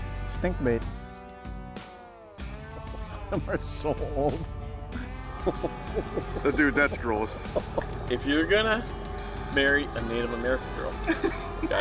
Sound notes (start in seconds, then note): 3.2 laughter